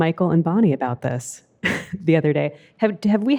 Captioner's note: laughs